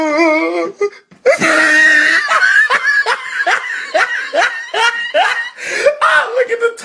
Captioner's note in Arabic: يضحك